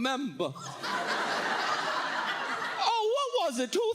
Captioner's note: audience laughs